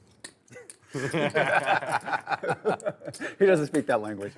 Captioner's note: players laughing